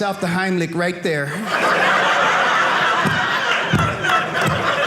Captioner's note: audience laughing